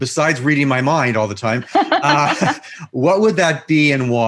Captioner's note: laughs